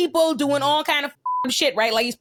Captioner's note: beep